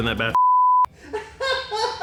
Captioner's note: color bar beeping; crew member laughing